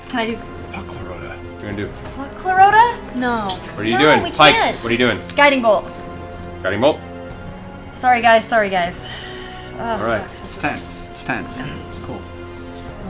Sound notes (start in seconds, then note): 8.9 sighs